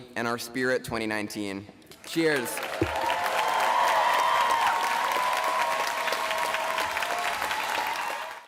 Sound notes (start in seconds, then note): 2.0 applause, cheering